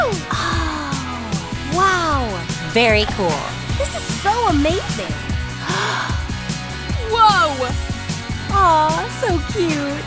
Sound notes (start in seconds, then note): 5.5 Barbie gasps